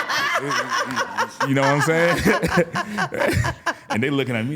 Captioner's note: laughing; laughs